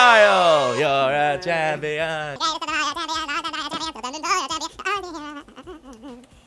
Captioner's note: singing; super fast motion sounds